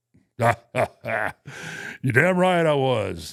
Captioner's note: imitates Vince laughing